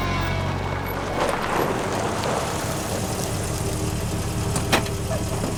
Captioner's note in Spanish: Ruido del vehículo